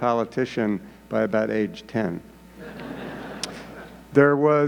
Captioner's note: audience laughing